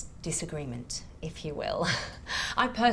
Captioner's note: chuckles